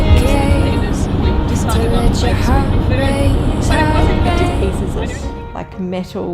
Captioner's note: people chattering; traffic roaring